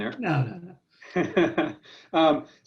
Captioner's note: laughs loudly